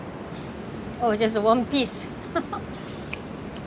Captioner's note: laughs